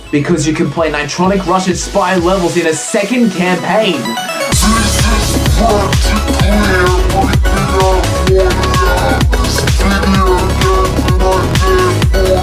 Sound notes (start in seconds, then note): 4.5 slow motion, pitched down, shouting